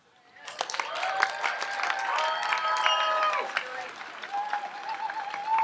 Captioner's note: audience applauds and cheers